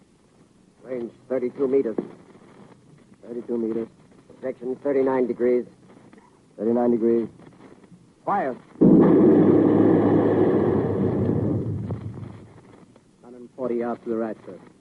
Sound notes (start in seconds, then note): 8.8 heavy gunfire